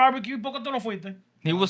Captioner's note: speaking Spanish